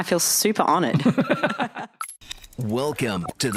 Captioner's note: both laughing